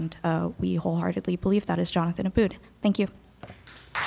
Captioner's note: applause